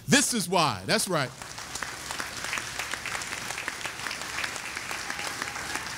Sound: audience applauding

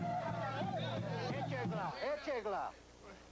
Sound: speaking Sioux

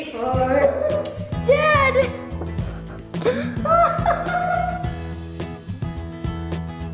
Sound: laughing

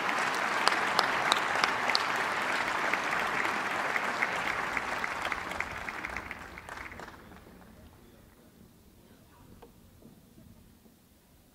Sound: applause

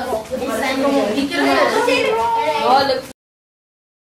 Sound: chattering

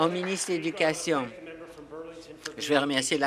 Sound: applause

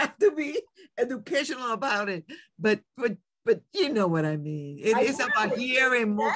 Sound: laughs

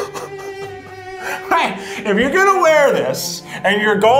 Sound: laughs

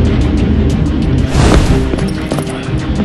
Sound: flamey woosh

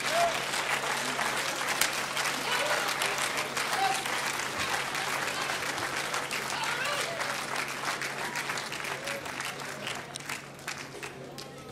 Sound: applause

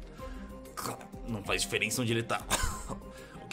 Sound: coughs

